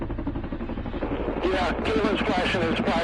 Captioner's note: helicopter whirring